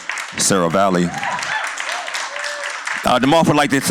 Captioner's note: cheers and applause